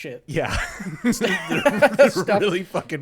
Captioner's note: laughs